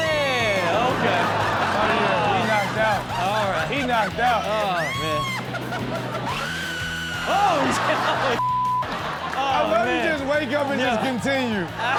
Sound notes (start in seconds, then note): 0.8 audience laughs; 6.8 man screams; 8.4 beep